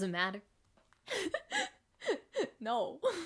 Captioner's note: crying